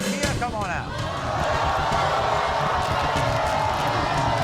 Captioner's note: audience shouts